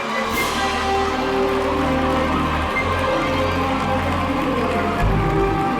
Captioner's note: crowd cheers and applauds; whimsical music continues